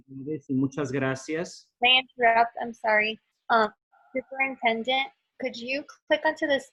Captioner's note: in English